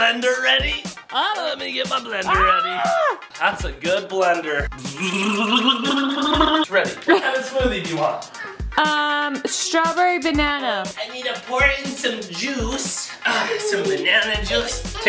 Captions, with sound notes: Let me get my blender ready. - Ah. - Let me get my blender ready. - Ah. - That's a good blender. (buzzing) It's ready. What kind of smoothie do you want? - Ah, strawberry banana. - I need to pour in some juice, some banana juice.